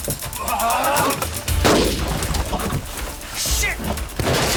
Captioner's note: firing continues